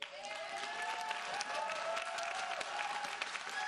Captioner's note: audience cheering